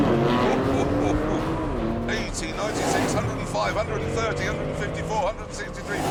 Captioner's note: tyres squealing; chuckles